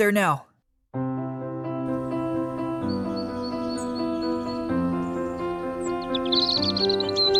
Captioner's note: energetic music; birds chirping